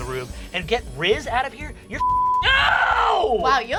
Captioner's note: beep